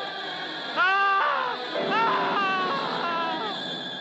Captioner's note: Achmed yells; laughs; Achmed yelling